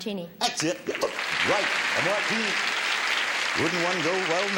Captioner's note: audience applauds